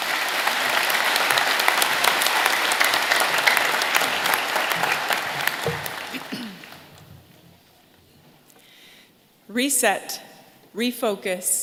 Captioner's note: applause